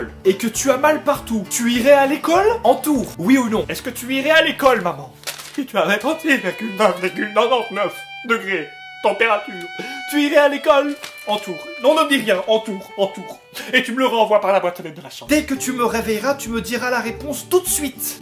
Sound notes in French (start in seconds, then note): 4.9 pleure